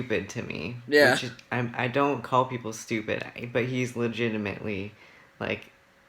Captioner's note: laughs